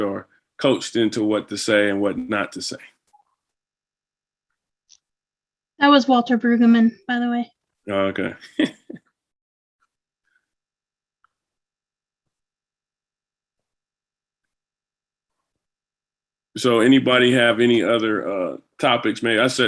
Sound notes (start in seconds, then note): 8.6 laughing